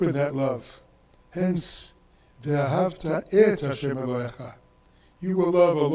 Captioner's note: speaks in foreign language